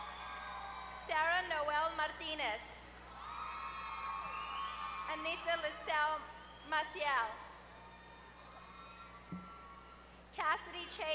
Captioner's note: applause; applause